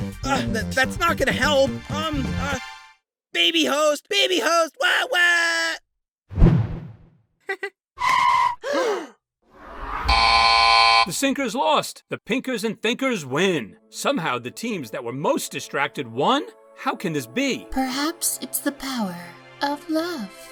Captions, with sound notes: Ugh tha-that's not gonna help! Um... uh... BABY HOST! BABY HOST! WAA WAAAA! Heheh... [BOW & THE FLOOR GASP] [BUZZ] The Sinkers lost! The Pinkers and Thinkers win! Somehow the teams that were most distracted won?! How can this be? Perhaps it's the power... of love.